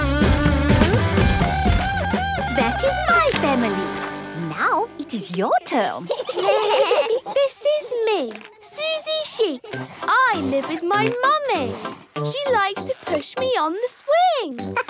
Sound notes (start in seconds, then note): 5.7 children giggling